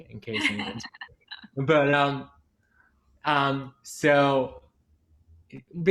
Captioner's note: laughs